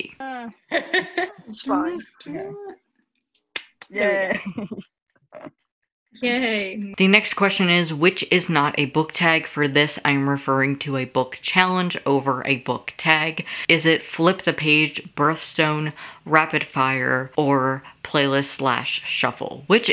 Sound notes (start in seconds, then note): 0.6 laughing; 4.0 laughter